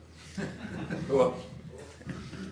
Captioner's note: audience laughing